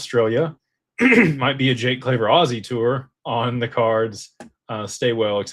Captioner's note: clears throat